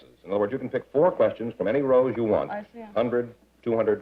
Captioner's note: none